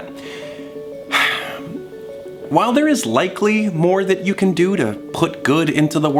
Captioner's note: sighs